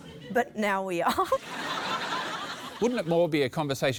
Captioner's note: laughter